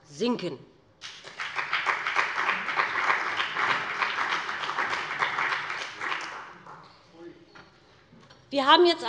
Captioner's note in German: Beifall bei dem BÜNDNIS 90/DIE GRÜNEN und der CDU